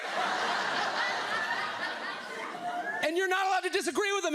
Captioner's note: audience laughs